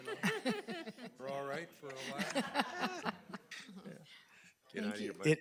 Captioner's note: board laughing